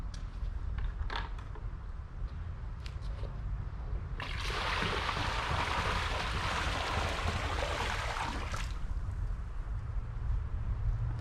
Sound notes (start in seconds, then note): 4.2 water splashes